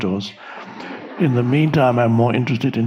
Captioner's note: audience laughing